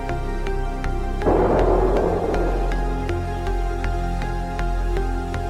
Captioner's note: explosion booms